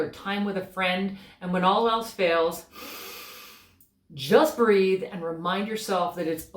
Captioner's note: breath